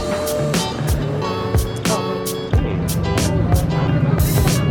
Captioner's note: market sounds